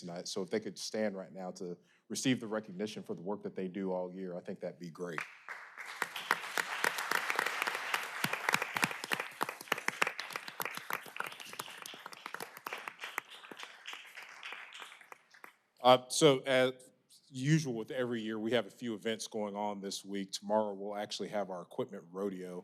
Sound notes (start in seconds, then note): 11.1 applause